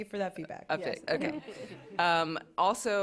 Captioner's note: laughter